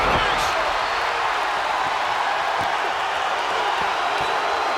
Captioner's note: body slamming; crowd cheering